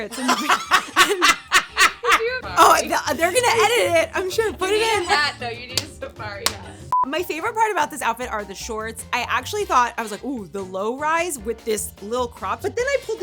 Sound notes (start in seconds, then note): 2.5 upbeat music; 6.2 electronic beeping